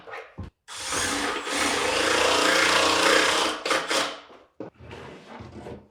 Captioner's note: driller whirring continues